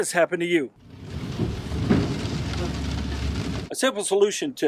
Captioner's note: sewage splashing